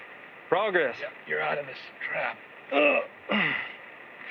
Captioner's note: grunts